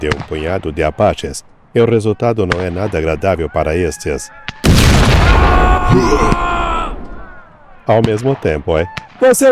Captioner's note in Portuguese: grito; gemido